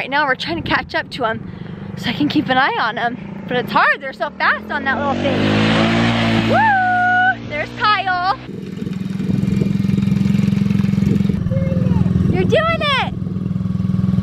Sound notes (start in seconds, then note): 5.6 engine roars